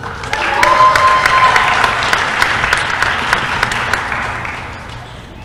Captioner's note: applause